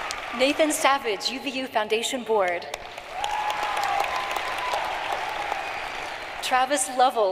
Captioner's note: applause